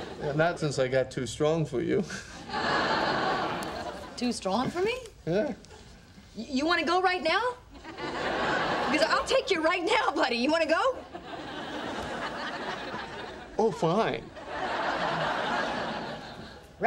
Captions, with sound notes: - Yeah, not since I got too strong for you. (audience laughing) - Too strong for me? - Yeah. - You want to go right now (audience laughing) because I'll take you right now, buddy. You want to go? (audience laughing) - Oh fine. (audience laughing)